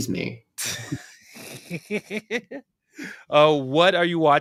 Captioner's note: laughter